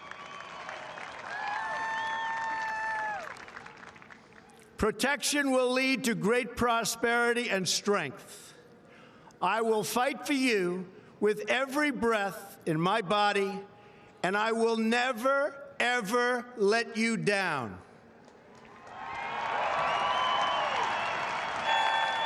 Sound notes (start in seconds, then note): 4.7 applause